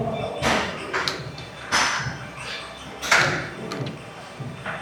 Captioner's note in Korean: none